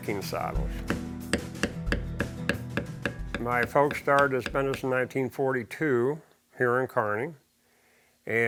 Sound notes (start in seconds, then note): 1.3 hammer banging